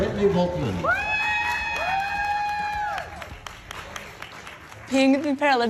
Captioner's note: audience cheers and applauds